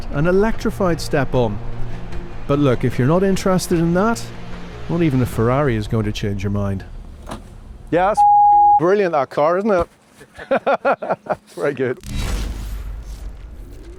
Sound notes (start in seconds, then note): 10.2 laughs